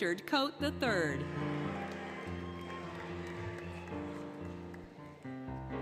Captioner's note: applause, Cheering, Music